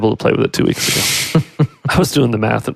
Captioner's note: laughing